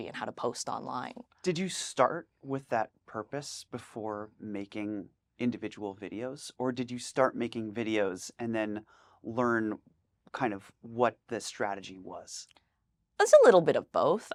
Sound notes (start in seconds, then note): none